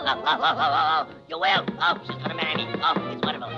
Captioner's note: chattering